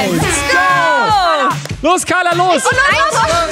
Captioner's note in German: Anfeuerungen